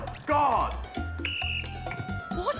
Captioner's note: blows whistle